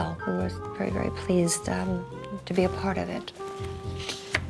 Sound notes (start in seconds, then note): 3.3 page rustling; 3.4 languid music